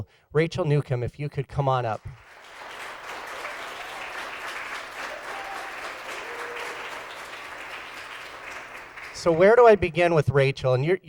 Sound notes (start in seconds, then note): 1.9 applause